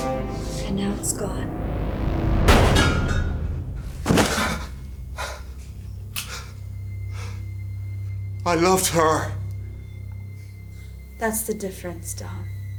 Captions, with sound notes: And now it's gone. (gun fires) (Dom thuds) - I loved her. - That's the difference, Dom.